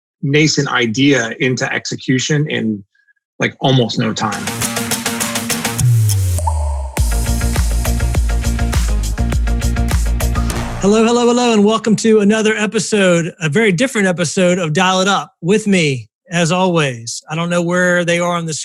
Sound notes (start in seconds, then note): 4.5 upbeat electronic music; 6.4 upbeat music; 6.4 water droplet